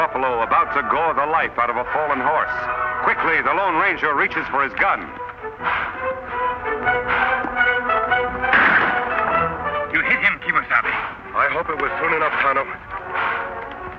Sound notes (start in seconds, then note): 5.4 buffalo huffing; 8.4 gun fires